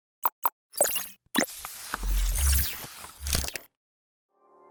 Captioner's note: mechanical whirring